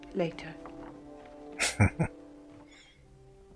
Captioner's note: chuckling